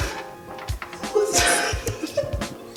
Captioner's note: laughs